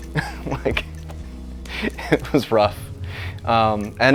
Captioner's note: chuckles